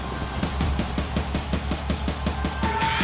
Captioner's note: cheers and applause